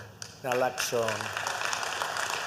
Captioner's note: applause